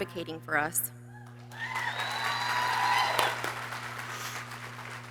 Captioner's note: people cheering